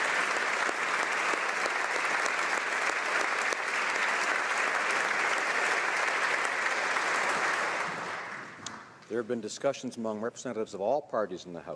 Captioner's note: applause